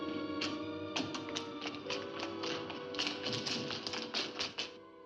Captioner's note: ominous music; footsteps down stairs